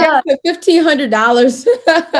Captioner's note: laugh